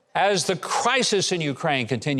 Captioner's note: none